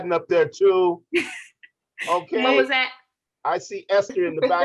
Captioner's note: laughter